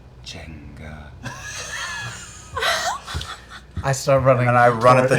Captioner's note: laughter